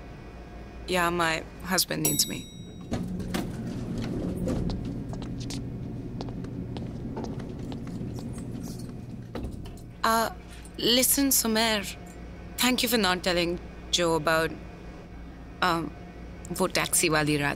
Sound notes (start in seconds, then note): 3.0 Elevator door opening; 4.9 Footsteps